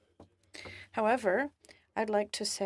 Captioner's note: speaking in french